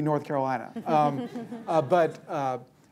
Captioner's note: laughter